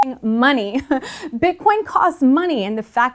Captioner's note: laughs